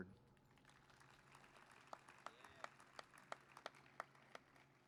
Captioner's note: applause